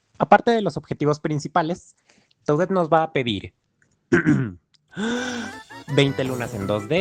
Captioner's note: clears throat, inhales